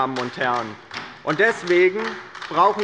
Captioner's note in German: Beifall bei der LINKEN